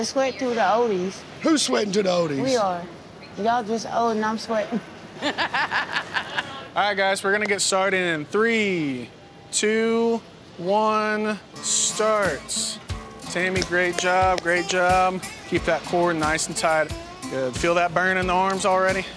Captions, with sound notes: [LAUGHS] All right, guys. We're going to get started in 3, 2, 1, start. Tammy, great job. Great job. Keep that core nice and tight. Good. Feel that burn in the arms already?